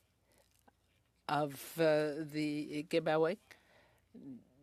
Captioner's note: speaking French